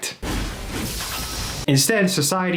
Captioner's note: objects crashing